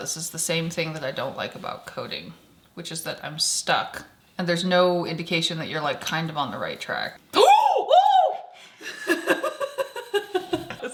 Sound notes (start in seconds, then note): 7.4 attendee exclaiming; 8.8 attendee laughing